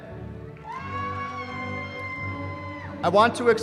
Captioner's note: cheering